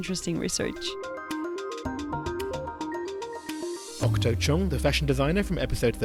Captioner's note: voiceover